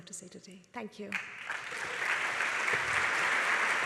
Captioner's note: applause